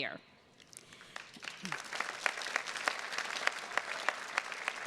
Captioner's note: attendees clapping